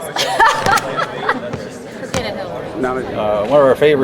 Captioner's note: laughing